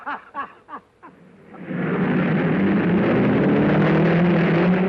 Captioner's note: happy laughing; cars revving